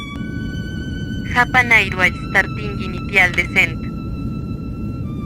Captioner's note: speaking Spanish